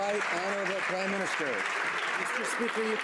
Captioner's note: some Applause